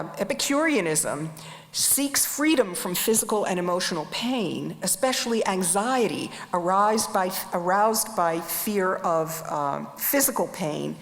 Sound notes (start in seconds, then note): none